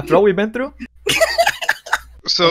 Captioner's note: laughs